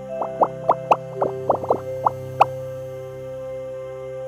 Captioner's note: bubbles popping